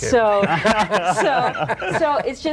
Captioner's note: laughing